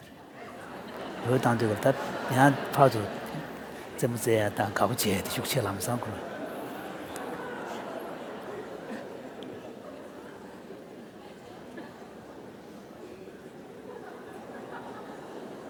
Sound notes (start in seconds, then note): 0.3 laughter; 3.3 foreign Language